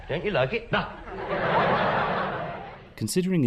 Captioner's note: laughter